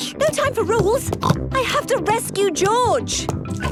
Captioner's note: snorts